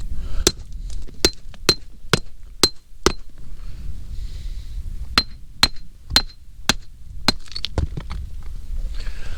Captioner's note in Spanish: martillazos